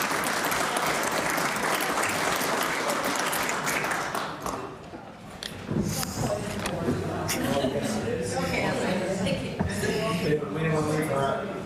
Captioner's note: applause